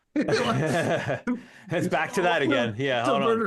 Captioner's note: laughing